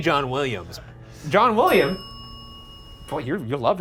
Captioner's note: bell dings